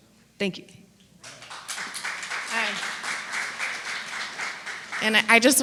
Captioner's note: applause